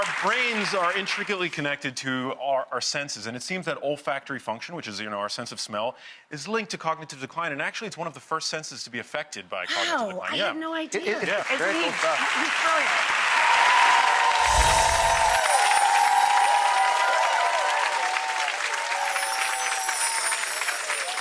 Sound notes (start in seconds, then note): 13.1 clapping and cheering